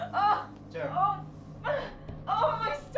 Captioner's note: pained grunting